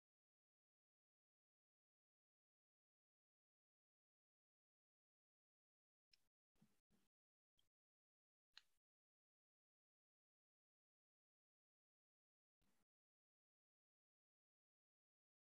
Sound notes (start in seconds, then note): 2.2 silence